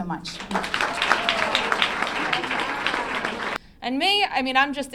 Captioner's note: clapping